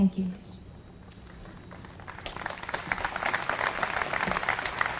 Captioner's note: applause